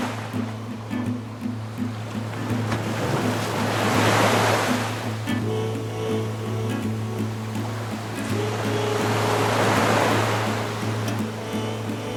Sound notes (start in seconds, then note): 0.0 gentle music; 0.3 waves crashing; 3.0 gentle music; 6.6 waves crashing; 9.4 gentle music; 11.9 waves crashing